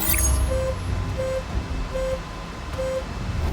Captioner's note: warning sound